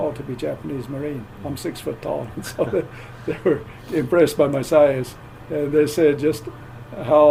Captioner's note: chuckle